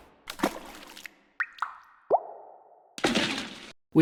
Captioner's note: splashing